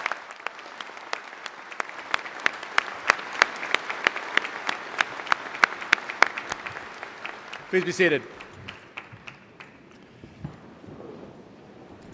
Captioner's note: applause